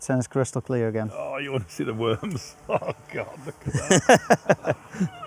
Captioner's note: laughter